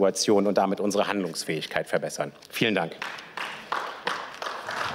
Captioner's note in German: Beifall